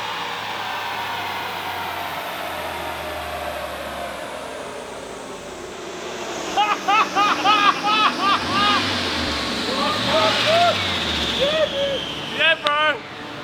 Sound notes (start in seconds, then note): 6.4 laughter